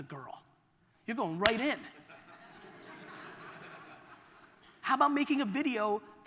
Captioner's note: audience laughter